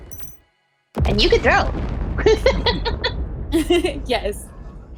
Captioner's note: laughs